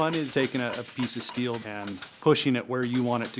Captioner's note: metal pounding